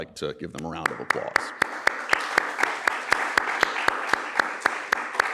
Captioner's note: applause